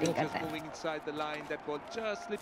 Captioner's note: TV playing